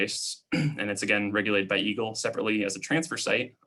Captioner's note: clearing throat